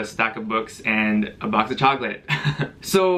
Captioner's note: awkward laugh